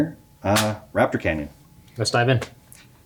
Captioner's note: chassis thuds